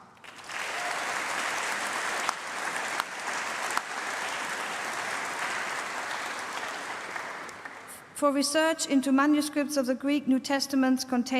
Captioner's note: applause